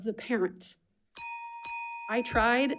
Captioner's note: bell ringing